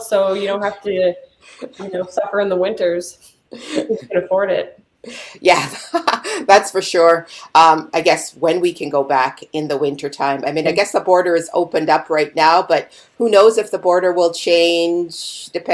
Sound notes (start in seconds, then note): 6.0 laughs